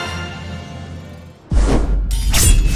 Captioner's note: swoosh sound; sword slashes